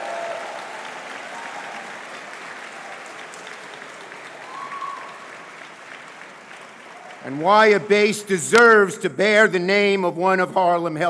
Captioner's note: cheers